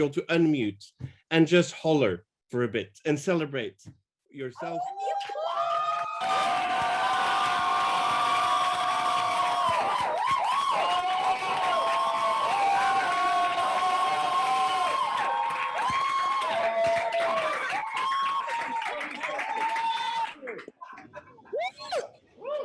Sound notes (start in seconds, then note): 4.9 group hollering